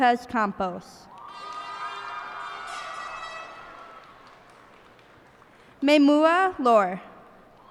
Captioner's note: cheers and applause